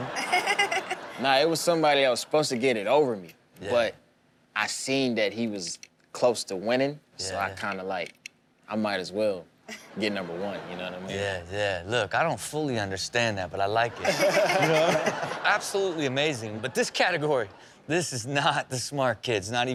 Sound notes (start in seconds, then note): 0.0 Chanel and audience laughing; 14.0 everyone laughing